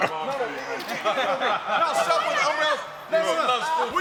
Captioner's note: laughing